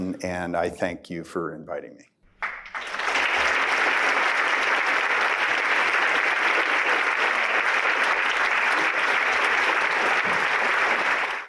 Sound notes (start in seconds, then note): 2.3 applause